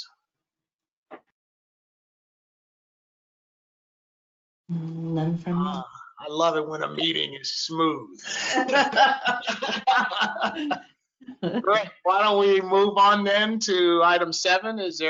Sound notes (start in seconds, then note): 8.2 laughter